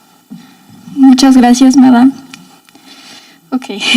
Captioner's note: speaking in foreign language